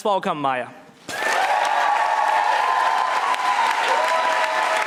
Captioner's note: audience applauding